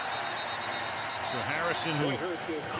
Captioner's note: whistle blowing